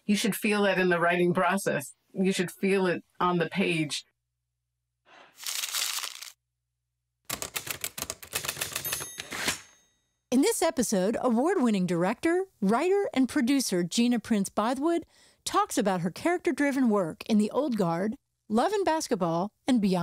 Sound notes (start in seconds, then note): 5.3 paper crumples; 7.3 typing; 8.5 typewriter ding